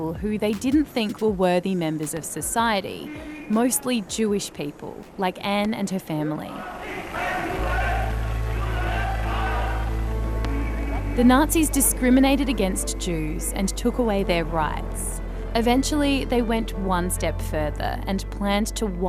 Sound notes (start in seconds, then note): 6.7 chanting in german